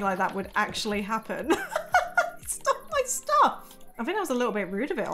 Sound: laughs

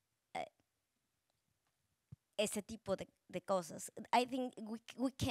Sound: speaking Spanish

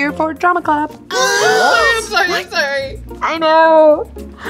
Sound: gasps

